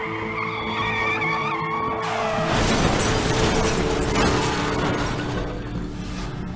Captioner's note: tire screeching